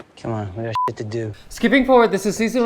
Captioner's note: beep